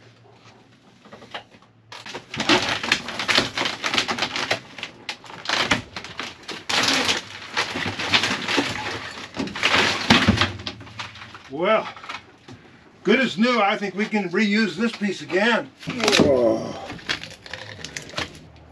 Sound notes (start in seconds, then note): 2.0 squeaking and groaning